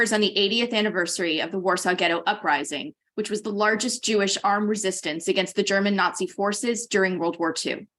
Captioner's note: none